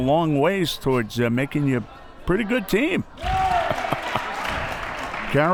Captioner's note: laughs